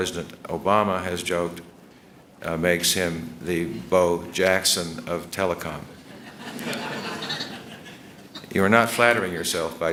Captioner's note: laughter